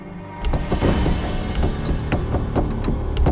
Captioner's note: door rattling